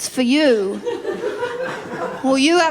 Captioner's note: laughter